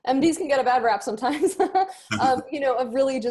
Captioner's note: laughs